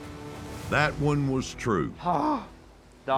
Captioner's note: groans